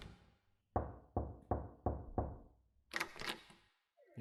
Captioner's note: door closes; knocking; door opening